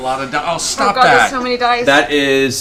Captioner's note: none